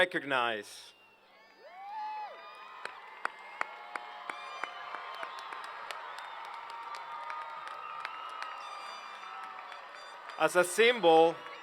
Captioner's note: applause